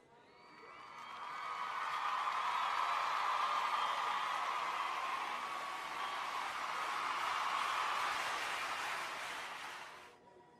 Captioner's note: crowd cheers permeate the air